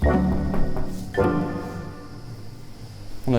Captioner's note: just crickets